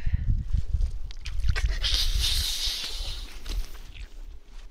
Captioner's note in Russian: Шипящие звуки ненависти или боли к воде